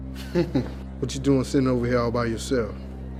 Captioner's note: chuckles